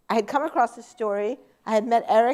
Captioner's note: none